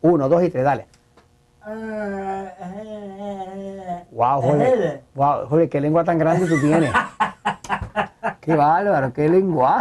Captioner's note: laughs